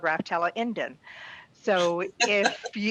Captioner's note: laughs